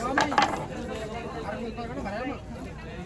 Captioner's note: speaking portuguese